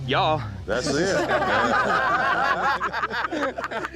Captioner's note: everyone chuckling